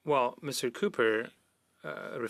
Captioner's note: speaking French